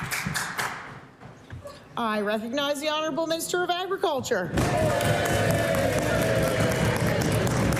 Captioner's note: applause